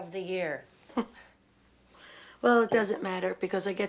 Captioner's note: chuckles